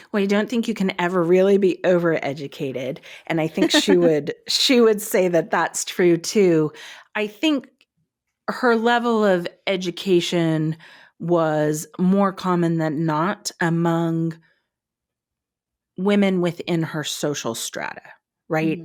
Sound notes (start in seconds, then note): 3.6 laughing